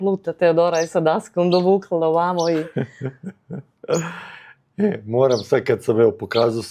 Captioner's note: laughs; coughs